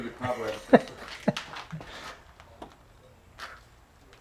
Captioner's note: laughing softly